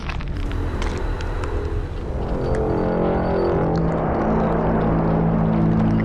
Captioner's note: soft ominous music; flesh squelching